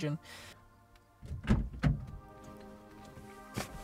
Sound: car door opens

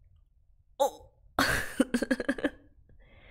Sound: laughs

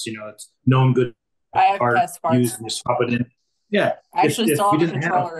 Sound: faintly speaking

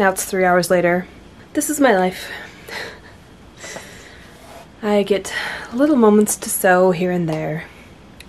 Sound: laughs

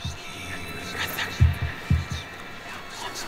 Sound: ghostly Voice

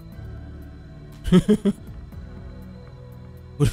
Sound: imitates stoned laughter

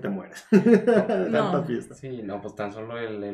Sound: laughing

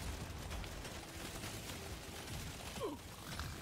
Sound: grunts

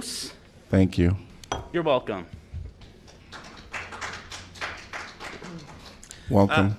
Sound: applause

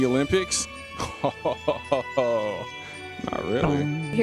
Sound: laughing

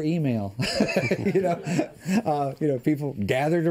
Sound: laughter

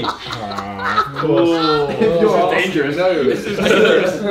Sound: laughs

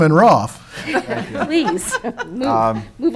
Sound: laughing

